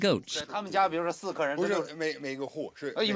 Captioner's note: men speaking Chinese